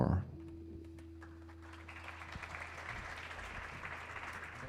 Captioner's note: audience applauding